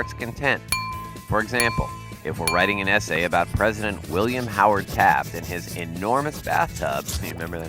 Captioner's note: pencil writing an essay